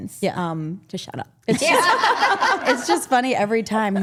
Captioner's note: group laughing